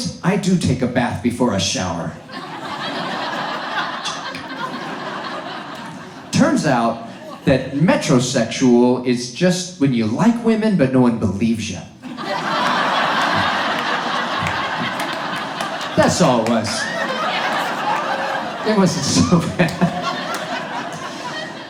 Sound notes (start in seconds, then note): 2.2 audience laughs; 12.3 audience laughs; 17.1 audience laughs